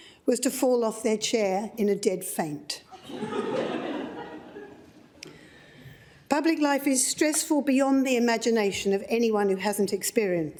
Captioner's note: laughter